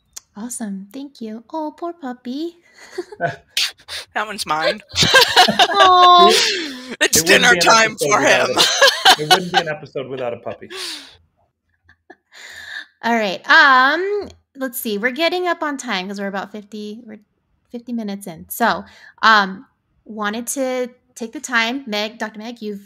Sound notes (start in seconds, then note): 4.4 all laughing; 4.5 all chuckling